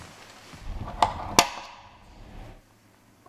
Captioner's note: click